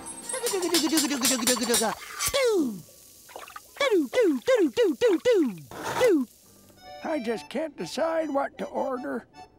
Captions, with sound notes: [humming] [humming] I just can't decide what to order.